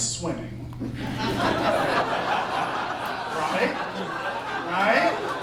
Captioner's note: laughter